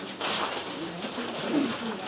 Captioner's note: paper tearing